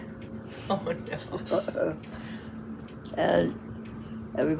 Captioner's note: laughs